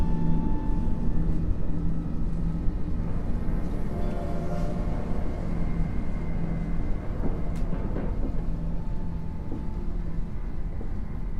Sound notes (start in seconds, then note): 4.0 train whistle blaring